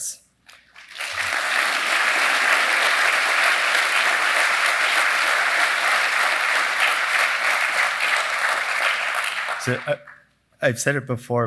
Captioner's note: applause